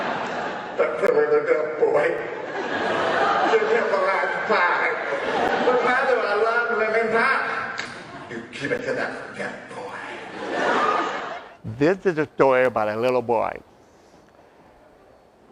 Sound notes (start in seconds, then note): 0.0 laughter; 2.3 laughter; 7.3 smack!; 10.3 laughter